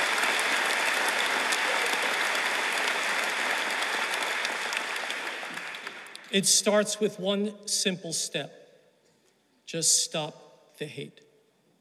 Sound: applause

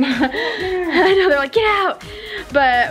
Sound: laughs

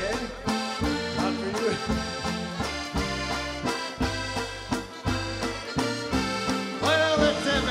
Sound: laughs

